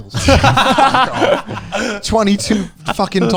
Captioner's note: laughs loudly